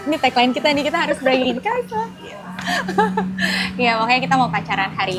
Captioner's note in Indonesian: tertawa